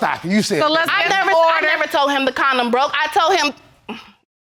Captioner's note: stammers